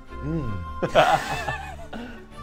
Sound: laughs

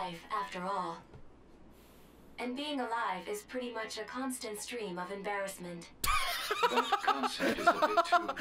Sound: laughs

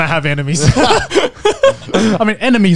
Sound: everyone laughs

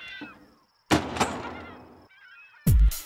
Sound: door unlocks

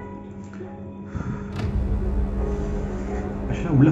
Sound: breathing intensifies

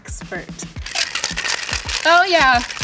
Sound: ice shaking; glasses clinking

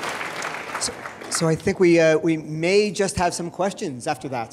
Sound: male Voice

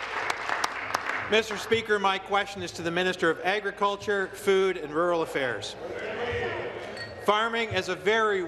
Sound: applause

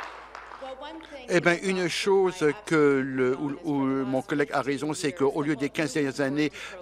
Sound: applause

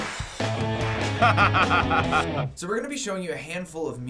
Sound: laughs

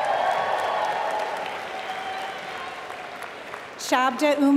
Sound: applause

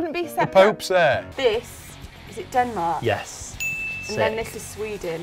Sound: bell dings

